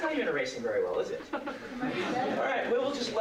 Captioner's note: laughter